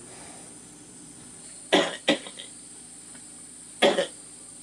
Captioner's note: coughing